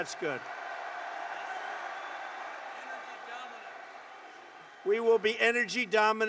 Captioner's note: applause